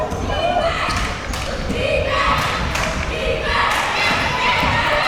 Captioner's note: crowd chanting defense